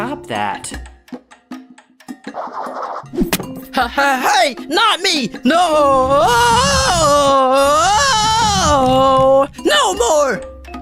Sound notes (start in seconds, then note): 2.3 head shaking sound; 3.1 thud; 9.8 yelling